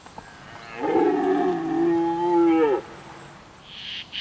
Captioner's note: stag roars